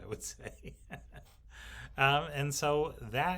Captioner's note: laughs